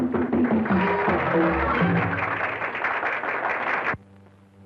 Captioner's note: audience applauding